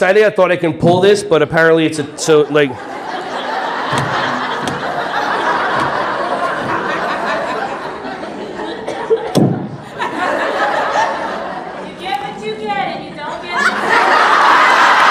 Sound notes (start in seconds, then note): 6.1 audience laughing